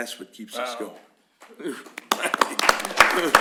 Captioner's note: applause